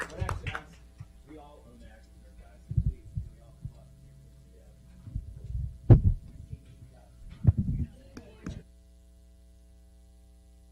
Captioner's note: clapping